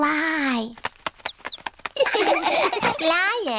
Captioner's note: chirping; laughter